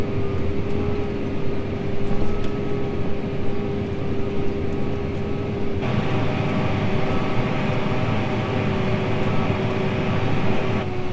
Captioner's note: tractor sound